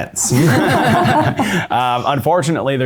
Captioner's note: both laughing